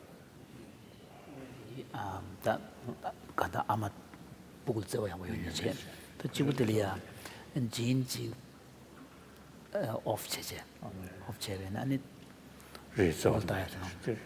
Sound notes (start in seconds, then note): 1.6 foreign Language